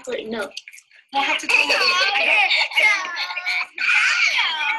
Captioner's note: laughter